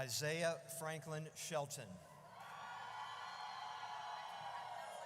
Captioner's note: audience cheers